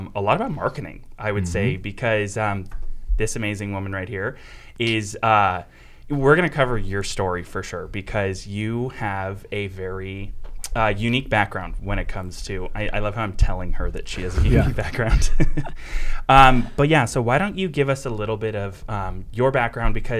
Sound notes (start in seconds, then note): 14.3 laughing